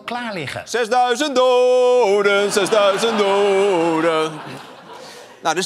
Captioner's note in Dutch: gelach